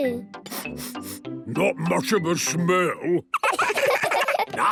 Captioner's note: sniffing; sniffs